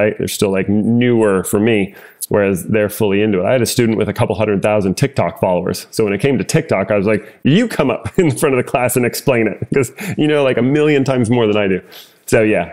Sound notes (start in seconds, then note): 9.4 laugh